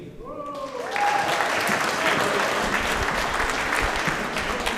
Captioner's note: audience applauding